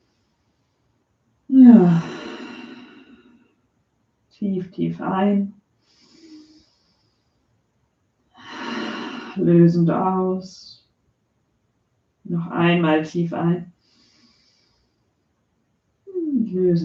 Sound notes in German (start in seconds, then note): 1.6 seufzt